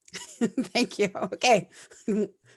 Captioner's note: laughs